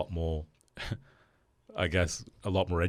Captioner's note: chuckles